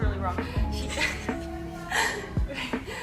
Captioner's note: laughs